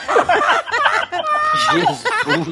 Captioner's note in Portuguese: risos